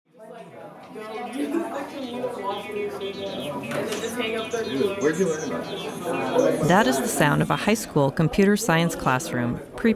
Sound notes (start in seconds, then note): 0.1 classroom sounds